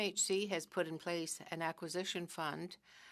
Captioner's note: speaking french